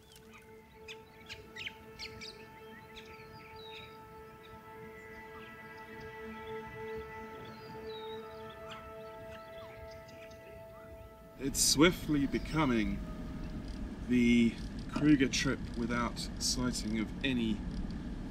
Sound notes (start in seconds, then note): 0.0 fire crackles late at night; 1.0 early morning birdsong